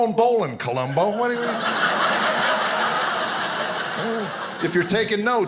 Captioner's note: audience laughing